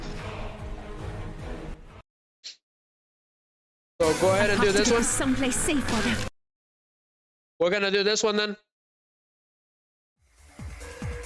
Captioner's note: snorts